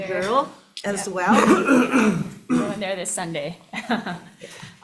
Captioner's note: laughs